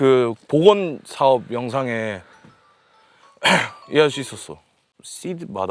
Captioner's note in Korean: 목을 가다듬음